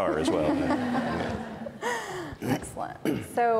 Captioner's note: audience laughs